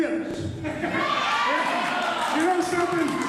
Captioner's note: laughing, applause